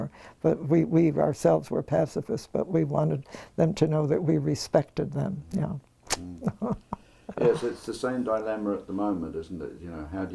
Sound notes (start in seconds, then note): 6.2 laugh